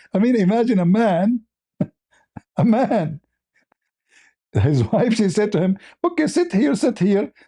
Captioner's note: laughter